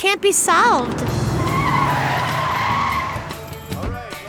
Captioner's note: tires screeching